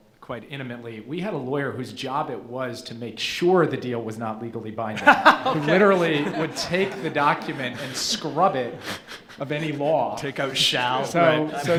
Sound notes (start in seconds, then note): 5.0 laughs